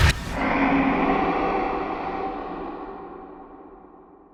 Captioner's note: animal roaring